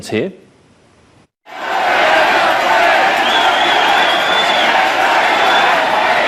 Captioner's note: crowd yelling and chanting